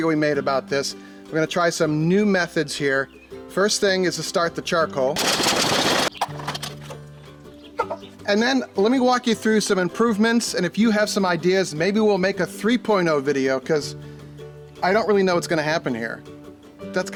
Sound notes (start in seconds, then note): 5.2 charcoal rumbling; 5.2 fire igniting